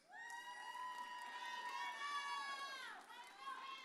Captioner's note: audience cheers